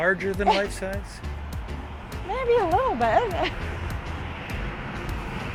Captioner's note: laughs